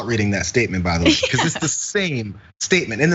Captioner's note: laugh